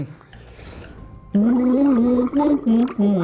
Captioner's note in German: Er summt eine Melodie, Blubbern